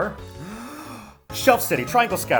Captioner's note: deep breath